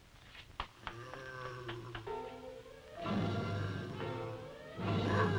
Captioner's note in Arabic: بوبوكا تتأوه